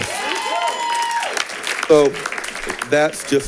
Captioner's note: audience cheering